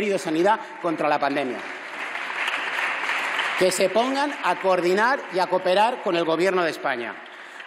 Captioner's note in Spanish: aplausos